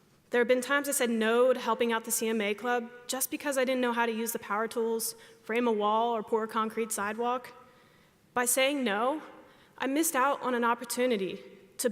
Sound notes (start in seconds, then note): none